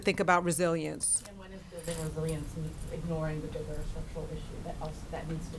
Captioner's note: voice muffled